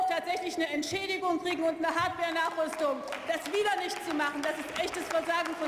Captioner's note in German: Beifall